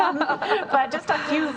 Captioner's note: laughing